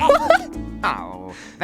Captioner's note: laughs as the man smashes the table and cartoon noises sound